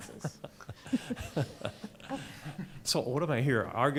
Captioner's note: chuckling